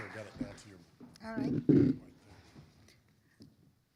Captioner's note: audience applauding; microphone scraping